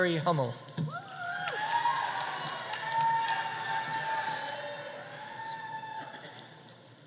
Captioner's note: audience cheering; audience applauding